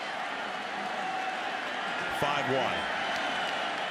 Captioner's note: crowd cheering